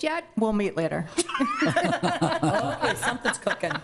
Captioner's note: lauging